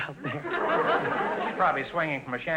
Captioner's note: audience laughter